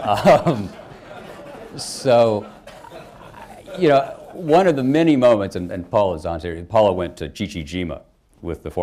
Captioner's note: laughter